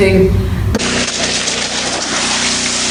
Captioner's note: splashes and water